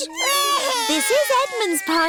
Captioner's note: babies crying